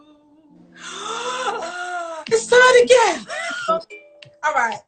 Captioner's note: gasp